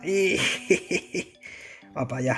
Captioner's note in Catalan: Riu